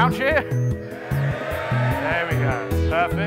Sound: cheering

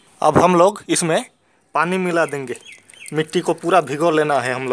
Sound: in Hindi

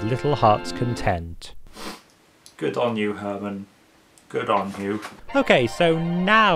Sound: sniffs

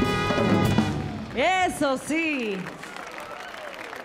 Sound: speaks in Spanish; audience applauding

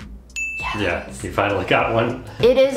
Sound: dinging

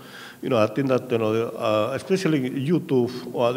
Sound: speaking in a foreign language

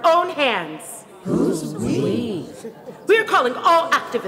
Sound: crowd

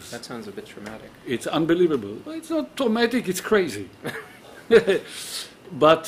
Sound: uncomfortably chuckling; chuckling

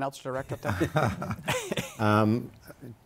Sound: laughter

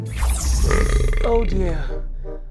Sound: belch

